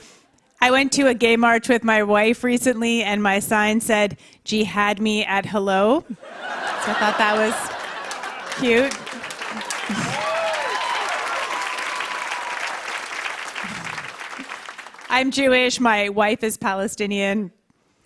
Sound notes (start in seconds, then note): 6.1 laughter; 9.1 cheers and applause